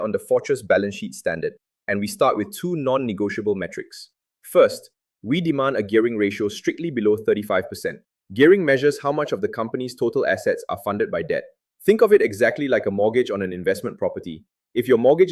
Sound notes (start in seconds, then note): 7.6 thoughtful